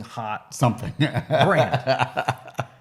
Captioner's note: laughs